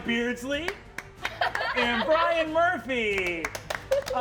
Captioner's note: laughing